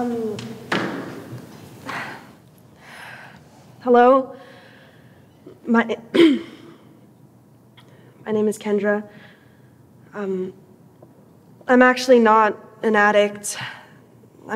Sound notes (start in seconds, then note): 6.1 clears throat